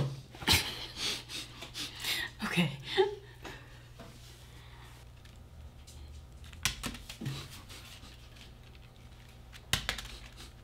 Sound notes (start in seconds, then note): 0.3 laughing; 7.0 bouncing paper